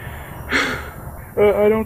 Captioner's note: sighs